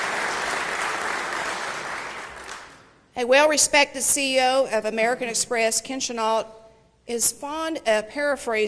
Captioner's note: applause